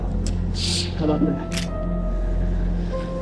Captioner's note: gun cocks